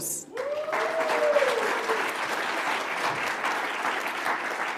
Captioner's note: audience applauds